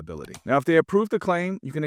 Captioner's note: screen clicking